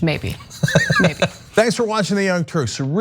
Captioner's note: laugh